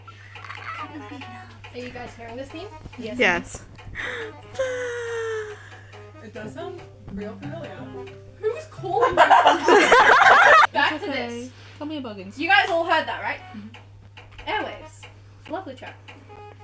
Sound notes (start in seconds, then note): 3.9 audible inhale; 7.6 discord calling sounds; 9.0 laughter